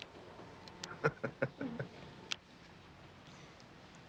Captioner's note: Jim laughing